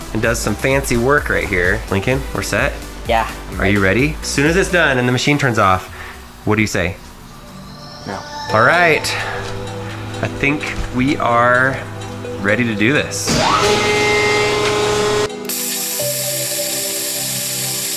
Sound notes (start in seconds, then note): 13.2 machine roaring; 15.8 machine sawing